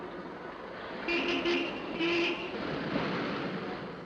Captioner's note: horns honking